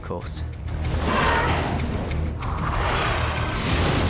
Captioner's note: dragon screeches